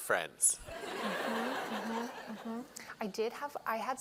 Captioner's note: laughter